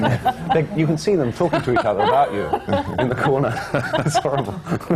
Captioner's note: laughter; laughs